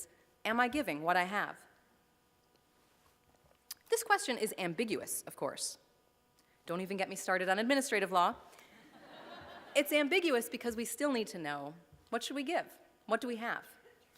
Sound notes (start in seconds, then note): 8.8 laughter